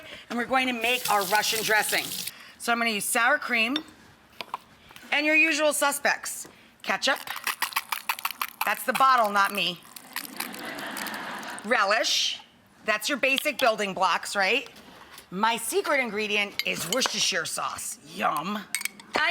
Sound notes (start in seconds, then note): 7.0 bottle squirts; 10.4 audience laughs